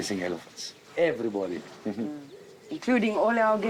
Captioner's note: chuckles